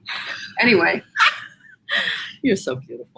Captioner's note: both laugh